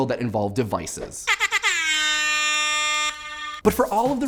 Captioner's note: air horn blares